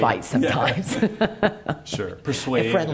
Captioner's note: laughs